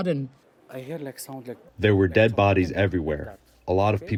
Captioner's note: through translator